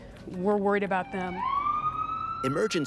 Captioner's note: ambulance siren